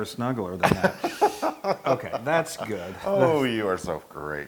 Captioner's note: laugh